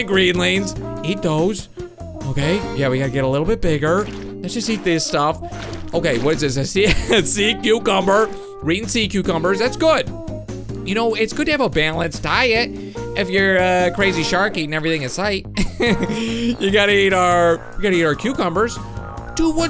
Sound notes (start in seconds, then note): 15.5 light laugh